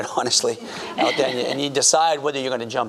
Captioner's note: audience laughing